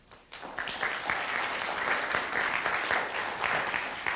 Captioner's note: applause